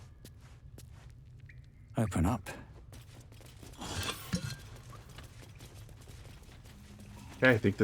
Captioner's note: silence